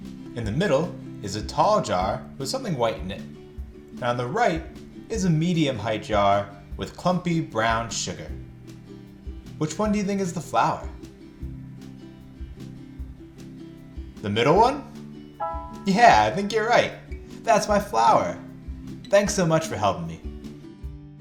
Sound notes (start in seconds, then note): none